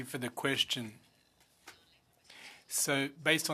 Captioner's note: speaking French